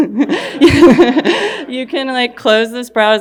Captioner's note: laughing